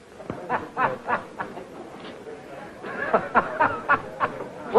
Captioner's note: happy laughing